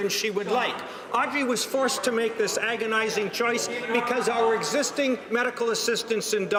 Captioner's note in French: voix de l'interprte